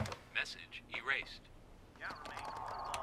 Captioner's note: automated Voice